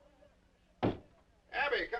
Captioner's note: door knocking